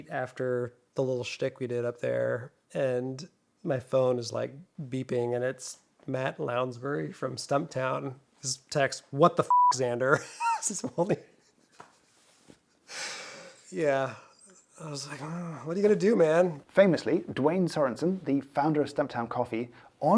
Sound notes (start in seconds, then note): 10.1 chuckles